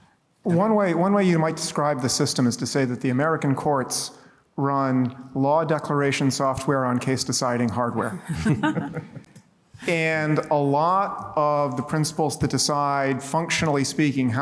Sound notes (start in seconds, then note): 8.2 laughter